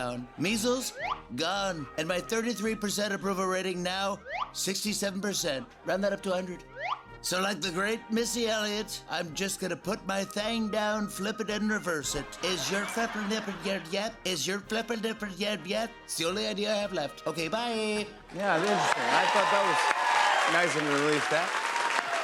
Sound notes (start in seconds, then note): 12.3 speaking gibberish; 22.0 cheers and applause